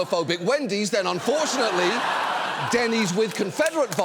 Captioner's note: audience laughs